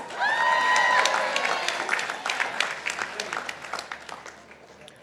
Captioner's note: participants applauding